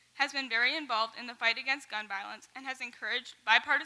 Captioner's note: none